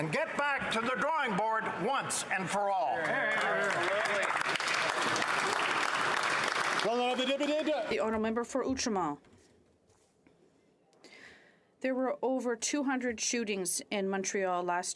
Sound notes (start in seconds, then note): 8.9 some Applause